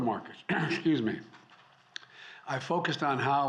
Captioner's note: clears throat